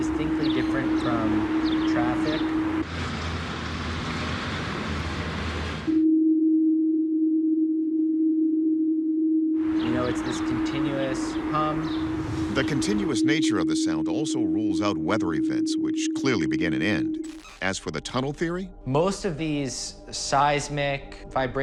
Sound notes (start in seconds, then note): 2.8 engine sound; 5.8 humming